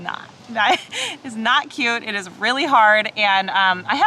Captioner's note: chuckles